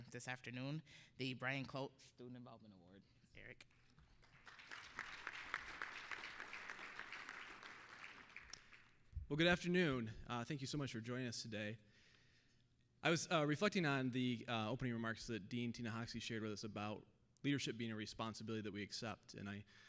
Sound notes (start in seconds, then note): 3.7 applause